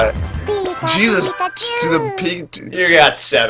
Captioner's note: chuckles; medibot stammers